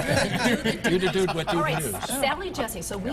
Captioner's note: laughter